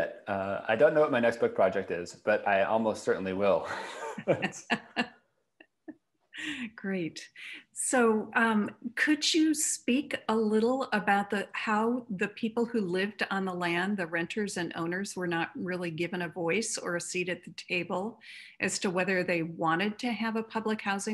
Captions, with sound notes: IS. I ALMOST CERTAINLY WILL. [LAUGHTER] >> GREAT. COULD YOU SPEAK A LITTLE ABOUT HOW THE PEOPLE WHO LIVED ON THE LAND, THE RENTERS AND OWNERS WERE NOT REALLY GIVEN A VOICE OR A SEAT AT THE TABLE AS TO WHETHER OR NOT THEY WANTED TO HAVE A PUBLIC HOUSING PROJECT BUILT WHERE THEIR HOMES WERE?